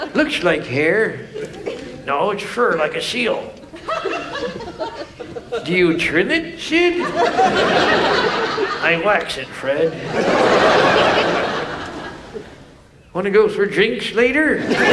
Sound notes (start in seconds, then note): 3.5 women laughing; 7.3 audience laughs; 10.1 audience laughs